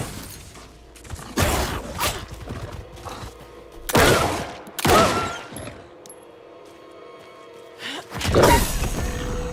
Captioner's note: growling